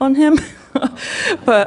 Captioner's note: questioner Laughter